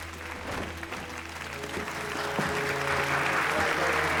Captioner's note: audience applauding